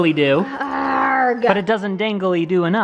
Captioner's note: growling